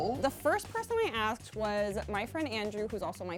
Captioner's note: none